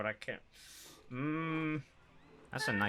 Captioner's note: sharp inhale; concerned "mmm"